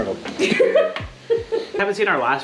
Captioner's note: giggles